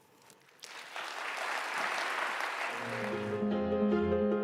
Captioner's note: applause